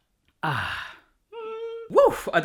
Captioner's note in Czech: výdech